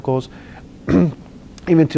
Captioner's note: clears throat